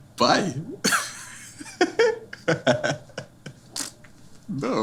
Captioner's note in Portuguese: risos